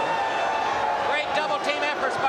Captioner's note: crowd cheering